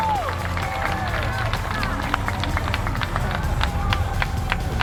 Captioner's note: rocket rumbles